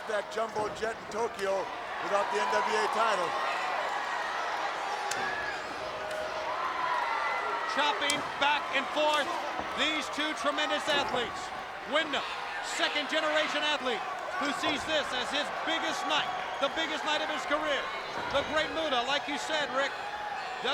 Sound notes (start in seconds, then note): 5.1 hands thwacking